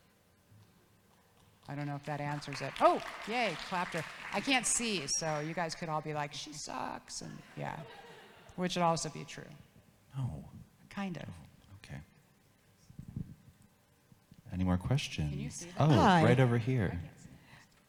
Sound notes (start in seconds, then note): 1.7 audience claps; 7.8 audience laughs